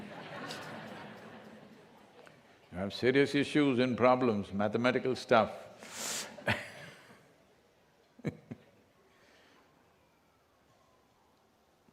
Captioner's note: laughter; laughs